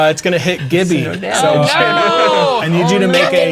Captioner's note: others talking and laughing